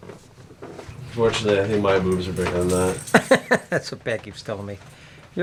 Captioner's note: awkward chuckle